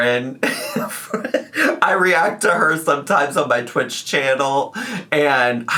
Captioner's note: laughs